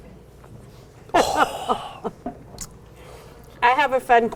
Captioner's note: laughs